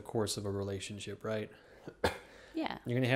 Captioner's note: coughs